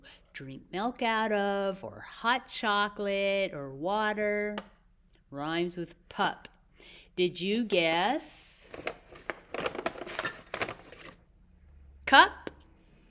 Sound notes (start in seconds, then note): 8.6 crinkling and clanking sounds